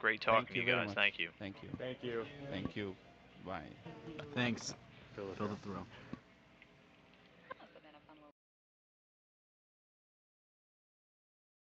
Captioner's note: audience speaking